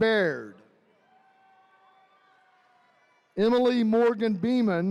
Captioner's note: attendees cheering